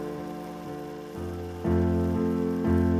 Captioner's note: film projector whirring